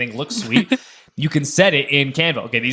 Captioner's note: laughing